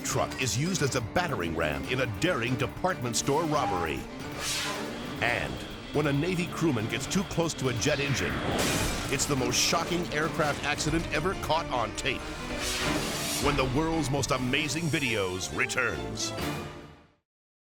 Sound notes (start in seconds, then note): 4.2 air whooshes; 7.9 engine bangs; 12.1 air whooshes